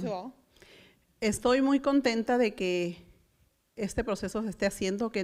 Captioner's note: foreign language